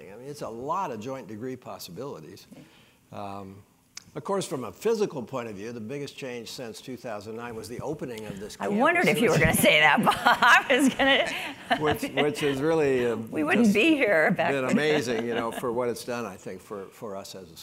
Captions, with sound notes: I mean, it's a lot of joint degree possibilities. Of course, from a physical point of view, the biggest change since 2009 was the opening of this campus. >> I wondered if you were going to say that, Bob, [LAUGH]. I was going to, [LAUGH]. >> Which has really- >> We wouldn't be here, in fact, [LAUGH]. >> Just been amazing for what it's done I think for us as a school.